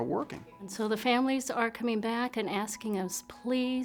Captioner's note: female voice